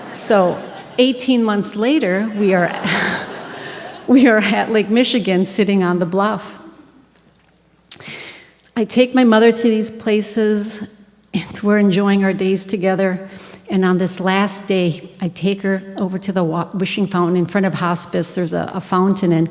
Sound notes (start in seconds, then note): 2.2 audience Laughing